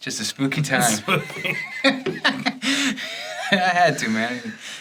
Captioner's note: chuckles